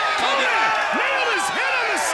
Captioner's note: crowd cheering